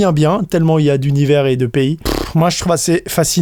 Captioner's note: sighs